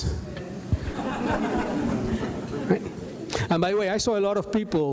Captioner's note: audience laughs